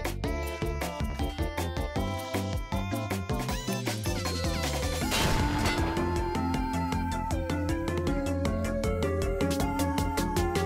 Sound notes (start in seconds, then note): 5.1 explosion